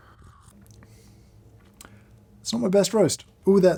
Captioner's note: slurping